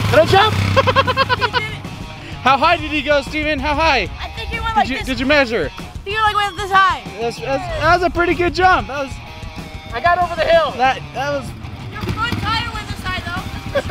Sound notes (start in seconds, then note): 0.6 laughs